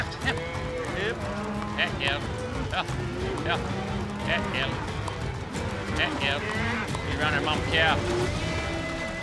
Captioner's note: calling